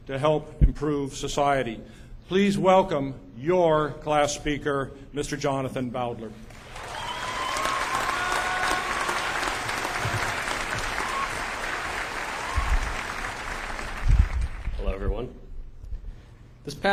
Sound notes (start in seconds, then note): 6.5 cheers and applause